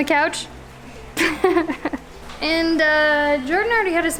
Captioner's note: laughs